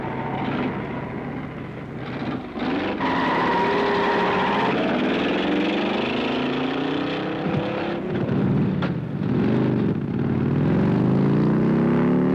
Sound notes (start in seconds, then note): 2.0 tires squealing; 2.0 engine revving; 7.9 motorcycle engine rumbling